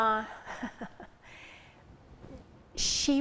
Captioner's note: chuckles